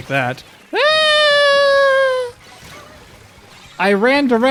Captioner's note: screaming